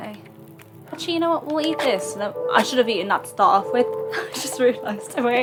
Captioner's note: laughs